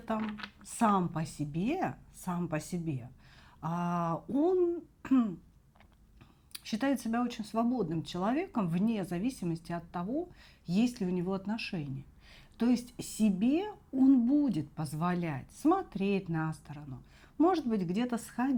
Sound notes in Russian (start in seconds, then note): 5.0 откашливается